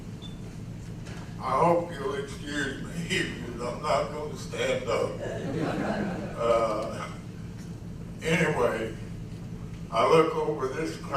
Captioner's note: laughs